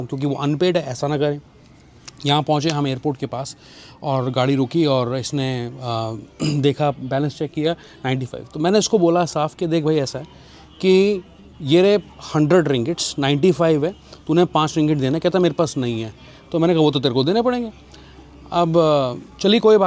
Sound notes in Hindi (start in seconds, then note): 6.4 गला साफ़ करने की आवाज़